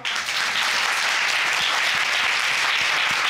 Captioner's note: audience applauding